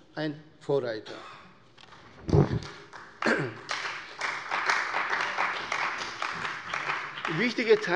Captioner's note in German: Beifall bei der CDU und dem BÜNDNIS 90/DIE GRÜNEN